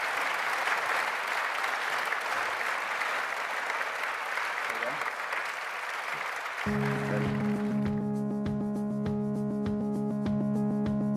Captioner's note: applause